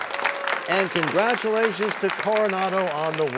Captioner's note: cheers and applause